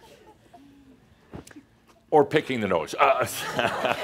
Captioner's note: more laughter